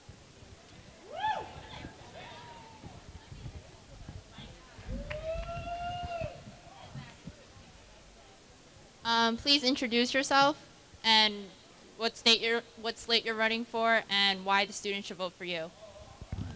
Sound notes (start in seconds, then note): 7.0 cheering